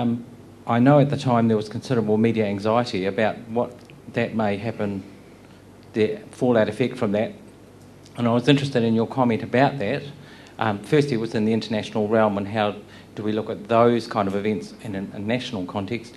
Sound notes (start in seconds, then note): none